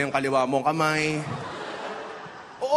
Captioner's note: laughter